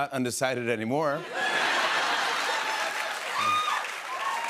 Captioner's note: laughter; cheers and applause